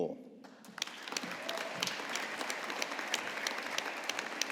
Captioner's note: audience applauding